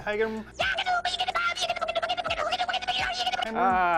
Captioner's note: cartoon character speaks gibberish